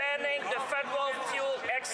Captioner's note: some Applause